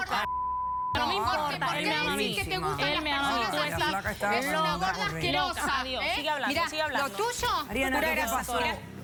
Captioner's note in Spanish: Hablan al unísono